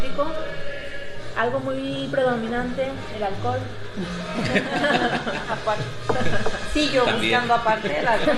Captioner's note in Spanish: risas